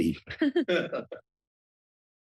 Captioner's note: laughter